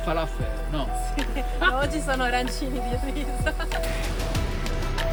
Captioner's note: laughing